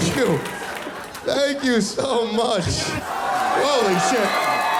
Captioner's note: audience screaming